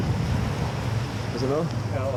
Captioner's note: boat engine revving